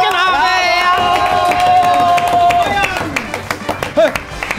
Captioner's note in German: Jubelrufe, lässige Musik